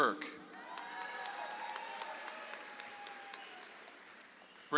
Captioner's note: audience applauds